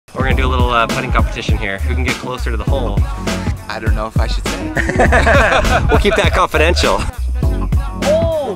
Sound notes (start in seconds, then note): 4.6 men laughing